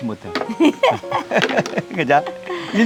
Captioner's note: both laughing